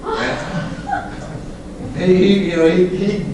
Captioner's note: laughter